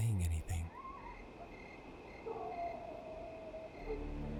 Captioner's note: dogs barking